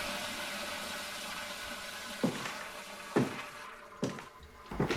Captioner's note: toilet flushes; footsteps; door opens